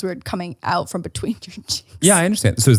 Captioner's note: laughs